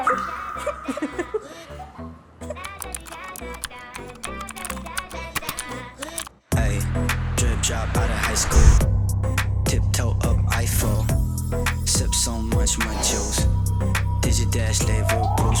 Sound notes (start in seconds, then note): 0.0 sound effect of lamenting his fate; 2.6 typing sounds